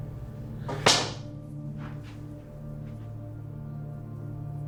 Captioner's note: cue smacking